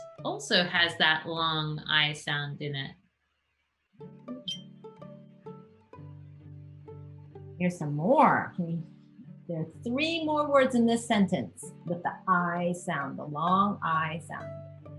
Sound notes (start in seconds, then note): 4.6 bell dings